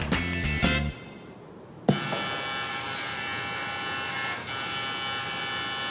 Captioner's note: electric motor buzzing